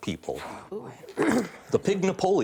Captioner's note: whispering